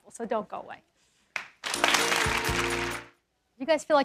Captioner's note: applause